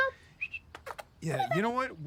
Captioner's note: Trixie whistling and kissing